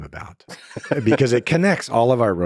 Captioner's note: Lex laughs